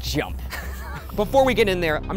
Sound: wheezing

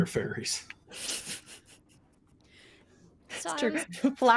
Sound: laughs

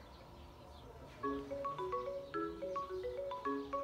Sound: incoming call ringtone

